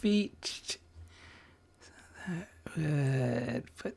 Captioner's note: silence